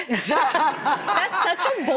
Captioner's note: laughing